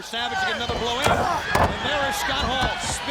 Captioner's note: body thudding